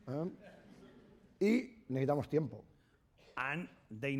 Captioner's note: speaking spanish